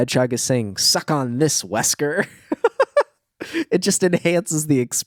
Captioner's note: laughs